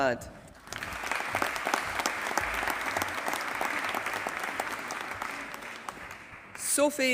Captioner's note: applause